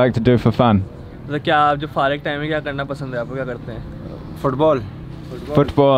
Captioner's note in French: Langue locale